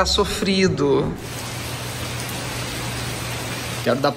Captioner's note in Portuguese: barulho de chuva